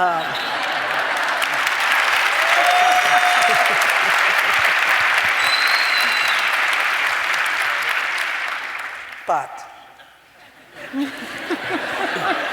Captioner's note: applause